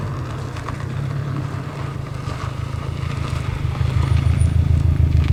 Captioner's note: car engine roaring